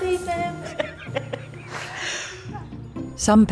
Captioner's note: person laughs